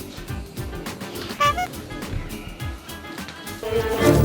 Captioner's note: laugh